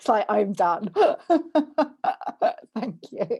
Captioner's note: laughs